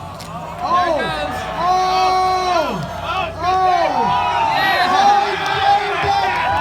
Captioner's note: crowd cheers; crown applauds in amazement!